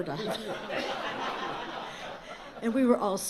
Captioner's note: laughter